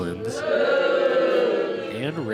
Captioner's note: crowd - "Boooo!"